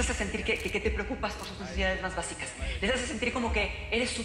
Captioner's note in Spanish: none